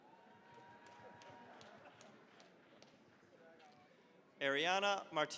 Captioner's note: cheering, applause